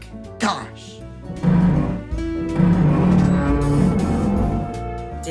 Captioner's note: metal groans